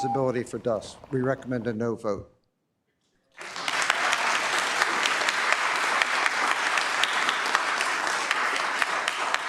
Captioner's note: applause